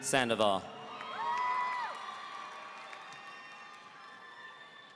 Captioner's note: audience cheering